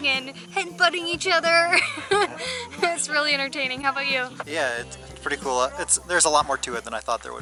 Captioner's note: laughter